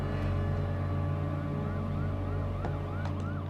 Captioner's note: sirens in background